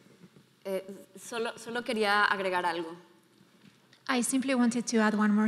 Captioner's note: speaking in foreign language